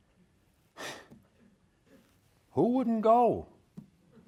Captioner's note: sighs